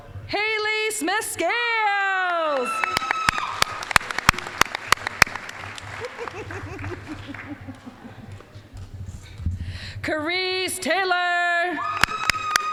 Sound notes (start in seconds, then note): 2.2 applause, cheering; 5.8 giggling; 11.8 applause, cheering